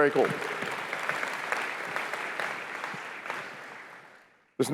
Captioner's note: applause